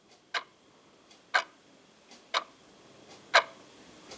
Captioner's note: clock ticking